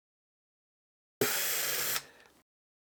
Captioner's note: blows